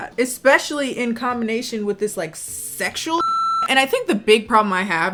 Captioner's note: beep